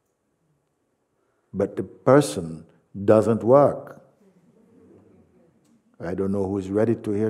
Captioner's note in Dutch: gelach